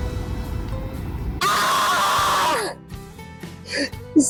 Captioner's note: primal yell